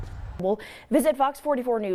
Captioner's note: foot steps